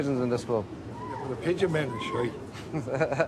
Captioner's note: Lacht